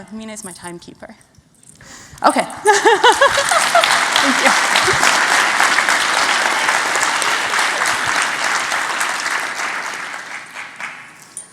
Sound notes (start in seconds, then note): 2.6 laughing; 3.0 applause